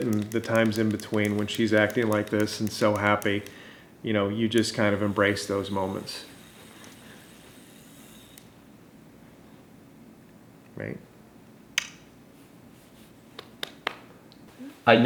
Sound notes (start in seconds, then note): 11.8 lips smacking; 13.3 father clapping